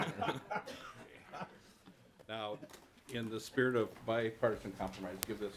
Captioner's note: laughter